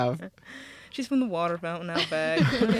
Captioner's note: laughing